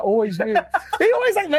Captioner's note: laughs